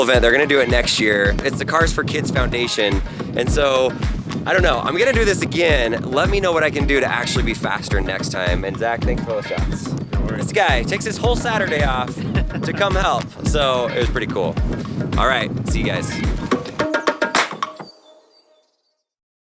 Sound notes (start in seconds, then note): 13.2 laughs; 16.8 upbeat music